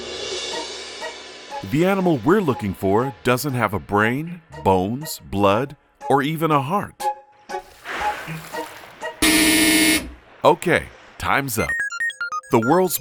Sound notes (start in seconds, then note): 1.4 playful suspenseful music; 7.5 water splashes; 9.2 buzzer buzzes